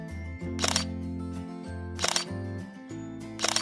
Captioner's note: shutter sound; shutter sound